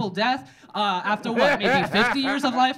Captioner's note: audience laughing